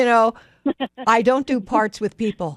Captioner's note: laughs